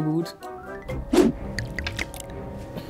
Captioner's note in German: Gluckern